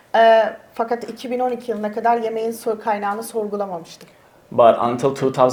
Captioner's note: speaks in Turkish